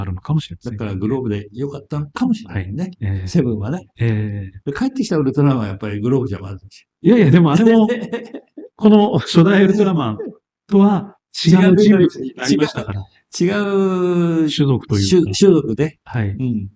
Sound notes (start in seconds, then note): 7.6 laughs; 13.3 laughs